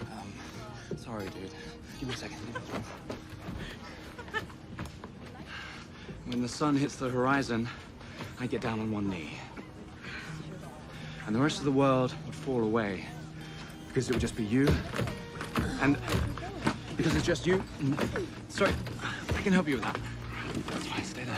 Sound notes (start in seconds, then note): 3.4 Rachel laughs; 15.1 luggage thudding